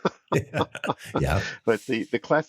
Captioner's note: laughing